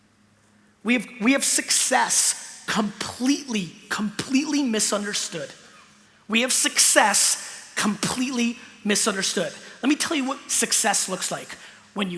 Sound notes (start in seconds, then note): none